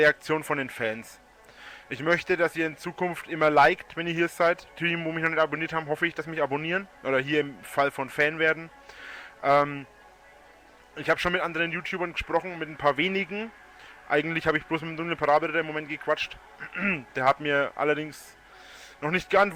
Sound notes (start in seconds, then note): 16.6 clears throat